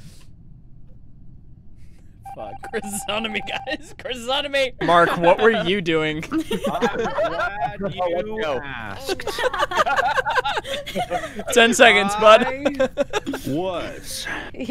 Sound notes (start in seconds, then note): 2.3 laughing; 6.2 laughter